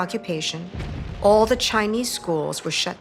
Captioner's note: explosions blasting